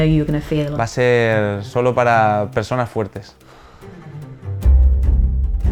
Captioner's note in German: spricht in einer Fremdsprache; dramatische Musik